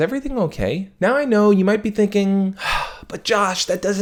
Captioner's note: loud sigh